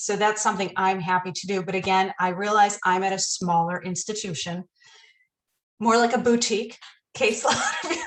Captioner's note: laughter